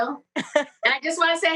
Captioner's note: laughs